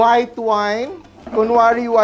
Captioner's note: sizzle